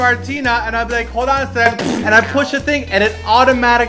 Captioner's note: poop sounds